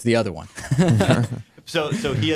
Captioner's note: laughter